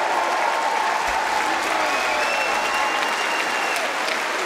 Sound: cheering & Applause

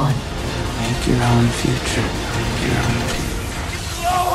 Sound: echoes

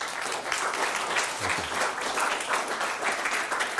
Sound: audience applauding

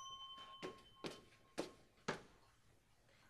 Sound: sound store elevator bell; sound footsteps

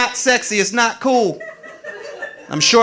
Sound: audience laughing

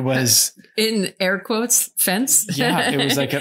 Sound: laughs

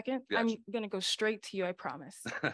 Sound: laughter

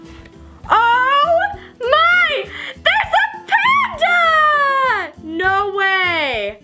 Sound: exclaims

